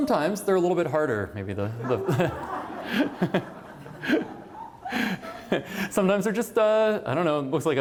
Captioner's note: laughter